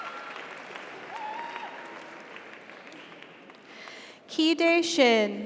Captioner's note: audience cheers; audience applauds